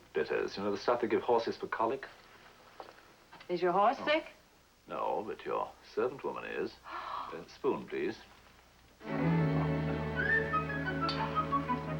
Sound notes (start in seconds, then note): 6.8 gasps